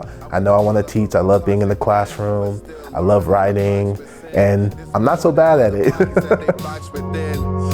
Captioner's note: laughter